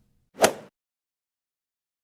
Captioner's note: swoosh